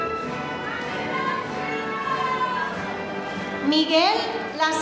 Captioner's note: audience cheering